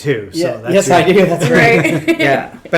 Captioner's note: chuckles